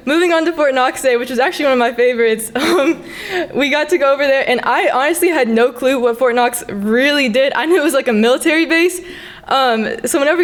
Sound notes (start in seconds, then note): 2.5 laughs